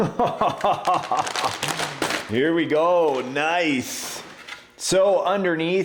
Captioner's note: laughing